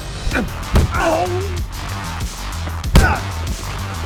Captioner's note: fighters moaning; upbeat music